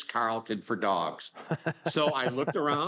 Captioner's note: laughing